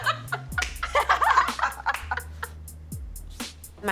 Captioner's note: laughing